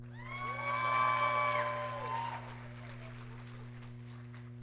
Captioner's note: audience cheering